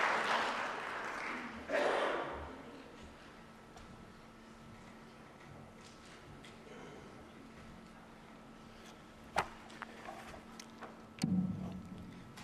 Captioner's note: applause